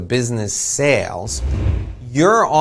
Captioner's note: air whooshing